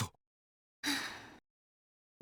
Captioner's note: relieved sigh